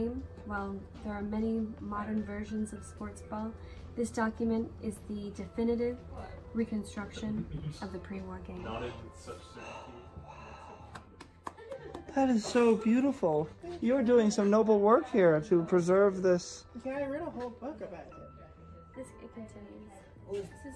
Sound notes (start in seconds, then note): 9.6 gasp; 10.9 daisy clapping